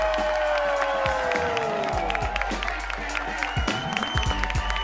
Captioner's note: applause